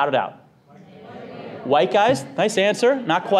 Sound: audience speaking

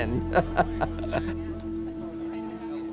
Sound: laughs

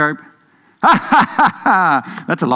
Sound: laughs

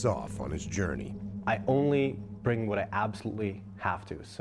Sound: voiceover

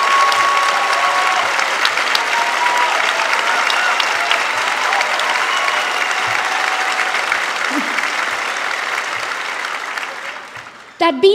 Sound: applause

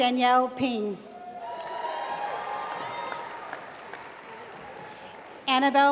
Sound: applause

